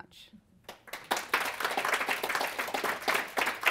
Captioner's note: applause